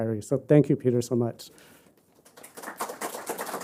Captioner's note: applause